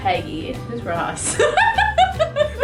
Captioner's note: laughter